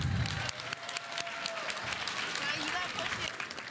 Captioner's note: audience applauding